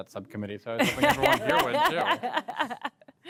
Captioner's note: laughter